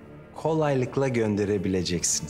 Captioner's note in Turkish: none